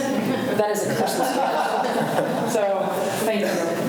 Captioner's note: students' laughter drowns out speaker